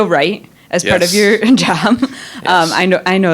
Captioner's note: chuckling